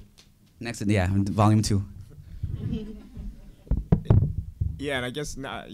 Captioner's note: audience laughing